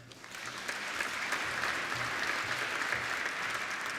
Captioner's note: applauding